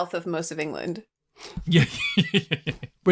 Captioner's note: laughs